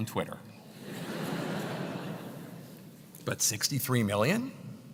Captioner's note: laugh